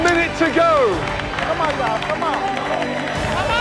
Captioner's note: applause